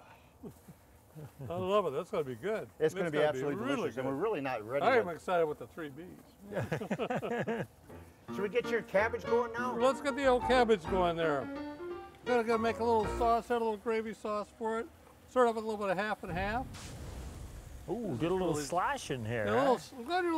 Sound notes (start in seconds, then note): 6.4 laughing; 7.8 old-time piano music; 16.2 fire exploding